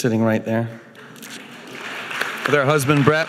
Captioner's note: audience applauding